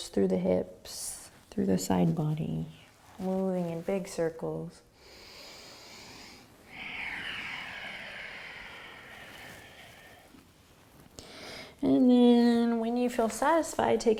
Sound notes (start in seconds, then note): 5.0 inhaling and exhaling